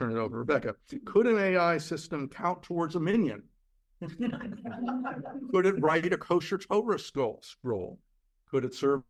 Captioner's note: laughter